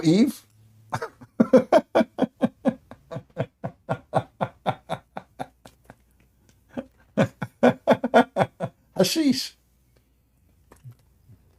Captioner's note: Ketawa